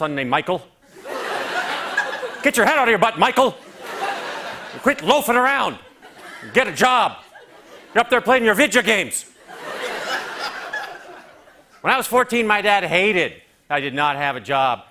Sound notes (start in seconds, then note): 9.3 laughter